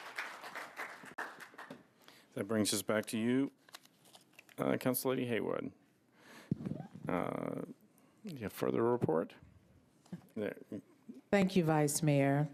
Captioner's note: applause